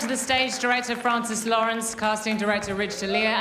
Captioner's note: cheers and applause